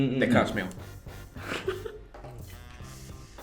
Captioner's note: laughs